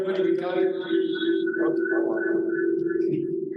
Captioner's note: audio feedback